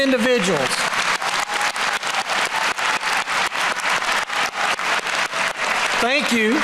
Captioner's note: applause